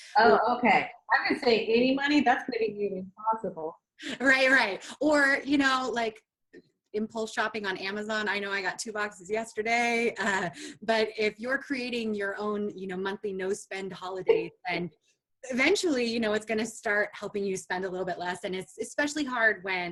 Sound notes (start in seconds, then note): 14.2 laughs